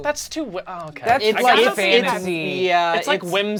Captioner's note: overlapping chattering